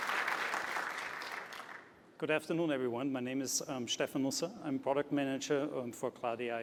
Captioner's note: applause